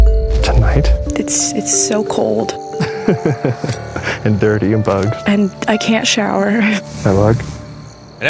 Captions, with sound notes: Tonight? It's so cold. [laughs] And dirty and bugs. And I can't shower. Can I have a hug?